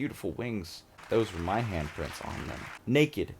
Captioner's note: audience claps